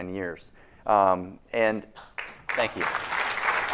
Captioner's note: applause